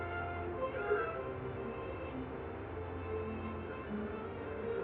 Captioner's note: horn honking